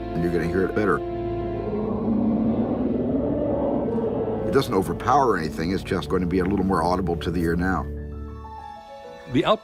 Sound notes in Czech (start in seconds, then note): 1.2 Sténání čelisti